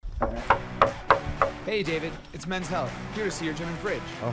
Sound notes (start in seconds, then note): 0.1 man knocking on door